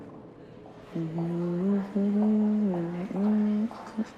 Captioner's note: humming